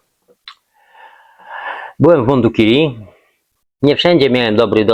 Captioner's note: sigh